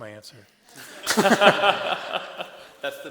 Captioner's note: laughter